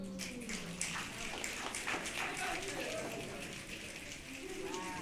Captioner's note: audience clapping and cheering